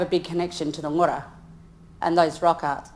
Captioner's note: speaks in foreign language